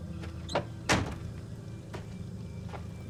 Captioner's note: car door slams